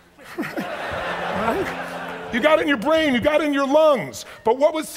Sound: chuckles; audience laughs

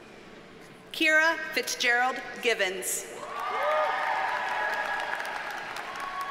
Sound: audience cheers and applauds

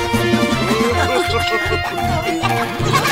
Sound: laughing; adventure music

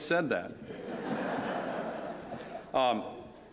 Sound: laughter

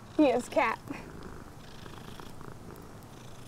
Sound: purring

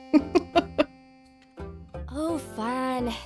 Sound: laughs

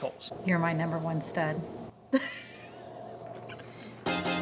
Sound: laugh

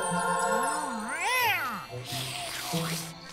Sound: meowing

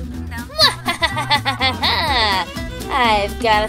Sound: evil laughter

